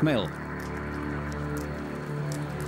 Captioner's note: loud chomping